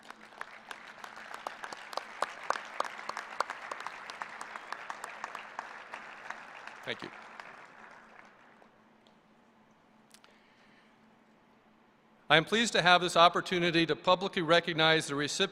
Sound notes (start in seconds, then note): 6.8 applause